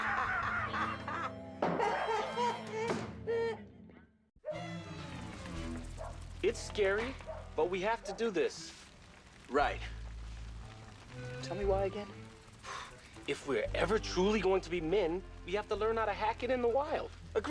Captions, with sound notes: ( laughing ) ( wolf howling ) IT'S SCARY, BUT WE HAVE TO DO THIS. RIGHT. TELL ME WHY AGAIN. IF WE'RE EVER TRULY GOING TO BE MEN WE HAVE TO LEARN HOW TO HACK IT IN THE WILD.